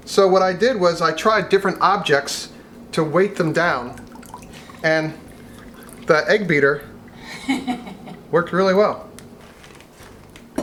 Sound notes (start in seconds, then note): 7.2 laughing